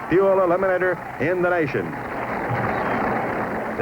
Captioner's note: engines roaring